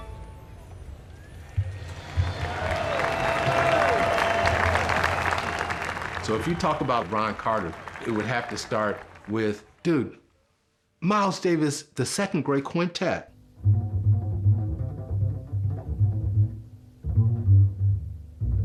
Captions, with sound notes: (audience applauding) - So if you talk about Ron Carter, it would have to start with dude, Miles Davis, The second great quintet. (bass solo)